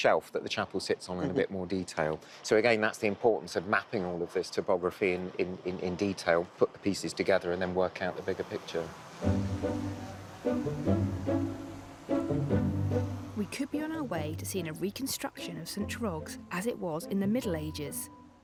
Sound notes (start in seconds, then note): 11.5 bright music; 11.5 drone buzzing